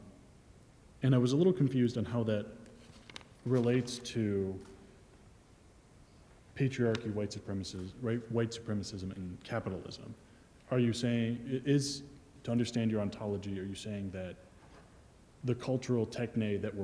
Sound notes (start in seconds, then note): none